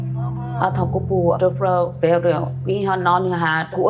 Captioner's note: non-english